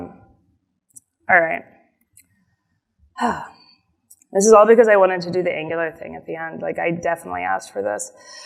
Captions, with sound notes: Alright. (sighs) This is all because I wanted to do the Angular thing at the end. Like, I definitely asked for this.